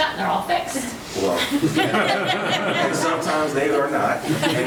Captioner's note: all laughing